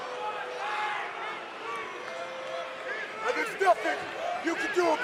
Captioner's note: crowd cheering